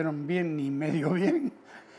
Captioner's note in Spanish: ríe